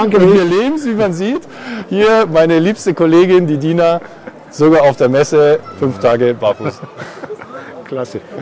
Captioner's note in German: Lachen